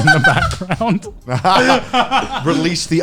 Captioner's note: laughing